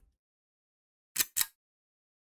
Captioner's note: click